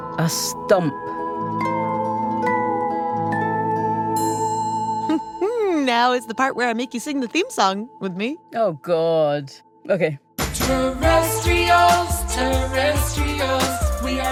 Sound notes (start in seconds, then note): 6.4 laughingly